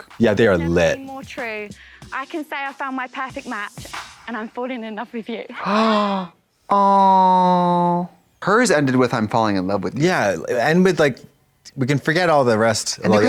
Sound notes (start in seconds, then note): 5.6 Trixie gasps